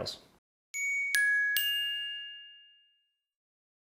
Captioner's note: bell ringing